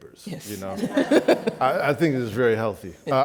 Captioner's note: laughs